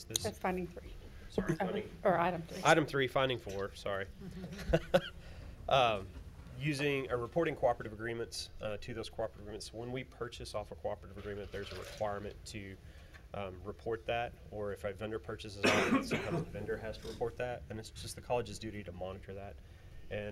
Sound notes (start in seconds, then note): 15.7 speaking faintly